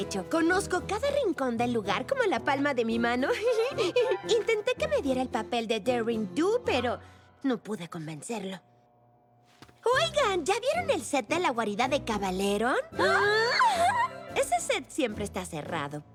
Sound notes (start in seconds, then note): 3.4 laughs; 13.0 whimper